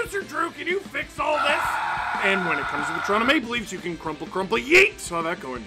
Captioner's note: screaming